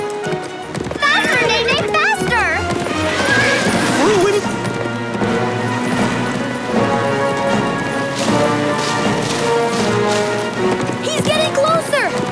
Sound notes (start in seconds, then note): 2.2 neighing